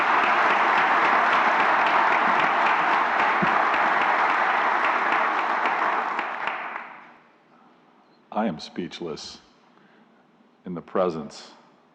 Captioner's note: applause